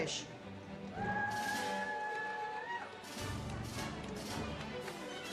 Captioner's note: audience cheers